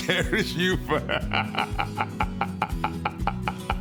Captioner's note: laughs